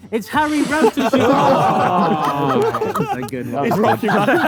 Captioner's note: group laughs